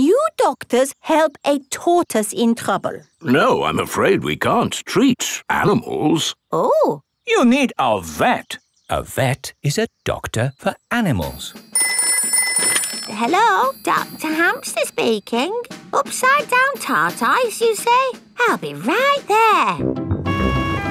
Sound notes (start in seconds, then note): 11.4 ringing